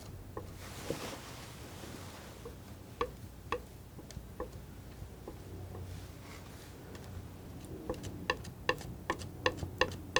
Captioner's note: tapping